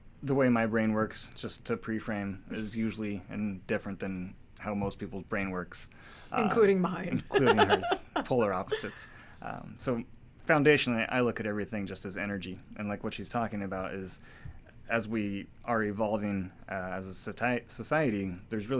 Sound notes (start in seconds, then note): 7.1 laughs